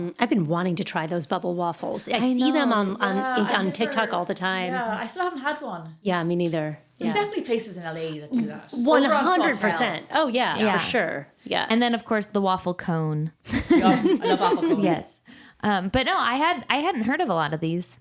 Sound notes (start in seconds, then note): 13.5 laughing